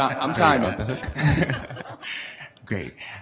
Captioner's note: board laughs